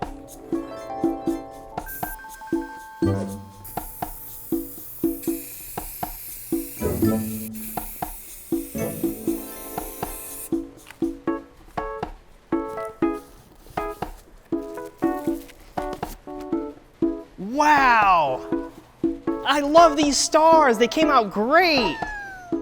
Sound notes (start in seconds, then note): 0.1 whimsical harp strum; 3.2 paint hisses; 6.0 playful music continues; 10.1 whimsical harp strum